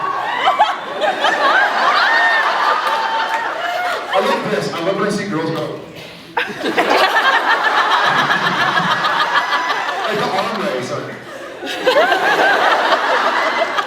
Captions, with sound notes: [laughs, cheers] I love this -- I love when I see girls go... [laughs] [laughing] I love that. [laughs] [laughs] Like the arm raise, they’re like... [laughs]